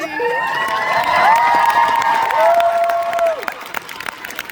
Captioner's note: audience cheers